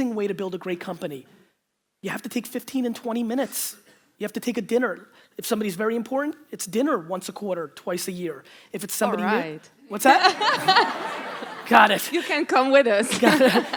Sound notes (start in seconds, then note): 10.0 audience laughter; 13.0 laughs